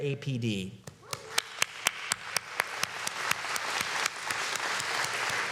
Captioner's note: applause